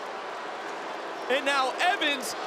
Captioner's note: crowd boos